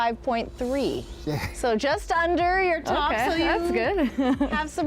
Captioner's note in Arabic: يضحك